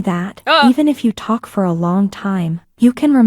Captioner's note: shudders